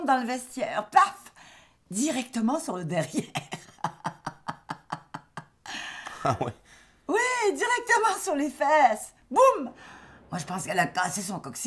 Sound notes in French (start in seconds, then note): 3.3 ricanement